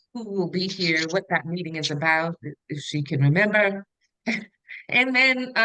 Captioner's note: chuckles